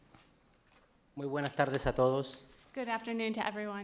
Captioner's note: speaking in foreign language